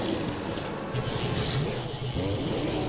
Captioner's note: electrical fizzling; sphinx growling